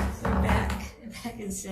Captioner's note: gavel bangs